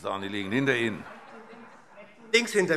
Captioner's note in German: Heiterkeit